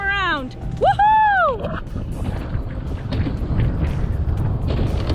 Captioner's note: she screams